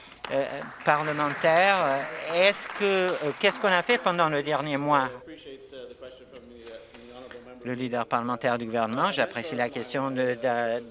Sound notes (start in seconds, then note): 3.0 some Applause